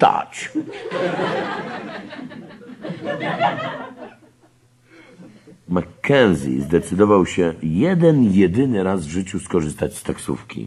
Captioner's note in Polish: śmiech